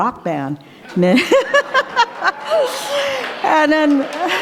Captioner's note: laughter